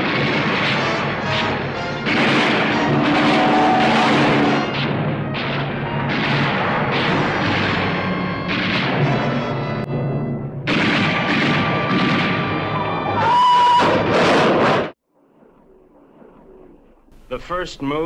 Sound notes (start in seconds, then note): 12.8 breaks squealing; 13.8 car crashing